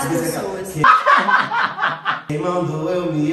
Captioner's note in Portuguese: risos; cantando